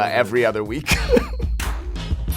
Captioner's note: laughing